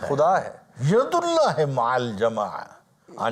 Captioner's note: Arabic